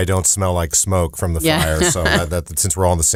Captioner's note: laughs